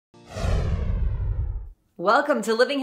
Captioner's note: swooshing